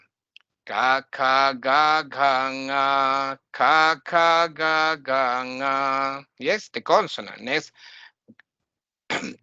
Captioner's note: chanting